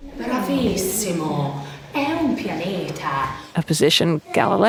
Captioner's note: teacher speaking in foreign language